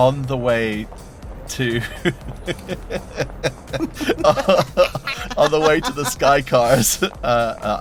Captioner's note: EVERYONE laughs